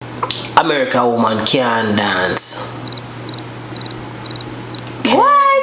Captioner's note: cricket noises